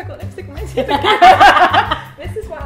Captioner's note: laughs